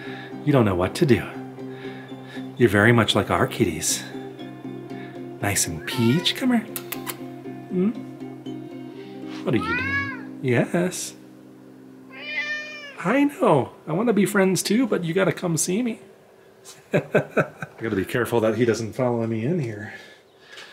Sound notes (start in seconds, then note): 12.1 meowing; 16.7 laughter